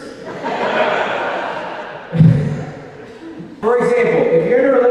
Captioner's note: audience laughing